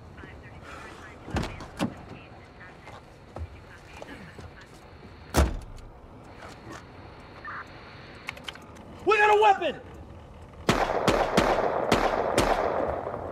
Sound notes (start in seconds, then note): 0.2 car door slamming; 10.6 gunshots cracking